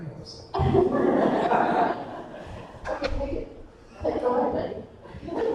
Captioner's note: laughing drowning out speakers